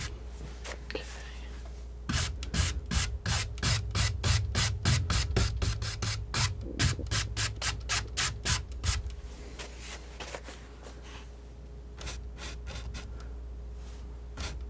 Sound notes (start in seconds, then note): 1.3 scratching